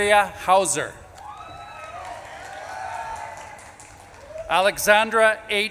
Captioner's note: audience claps and cheers